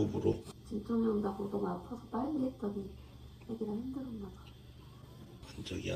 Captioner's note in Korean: 호흡